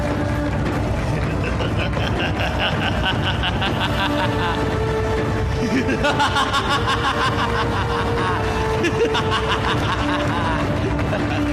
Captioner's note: Kans laughing